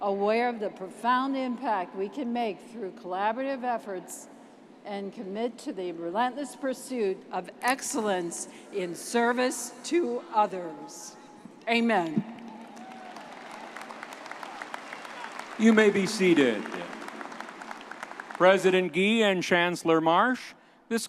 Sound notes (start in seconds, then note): 14.4 audience clapping